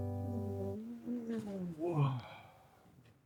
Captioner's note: muffled groaning